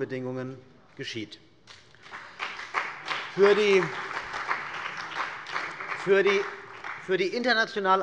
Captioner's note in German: Beifall bei der CDU und dem BÜNDNIS 90/DIE GRÜNEN